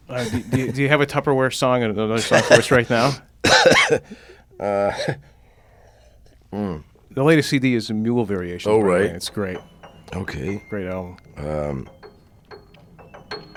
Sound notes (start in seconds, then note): 2.1 laughing; 10.4 piano sounds